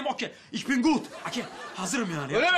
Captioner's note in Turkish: Almanca konuşma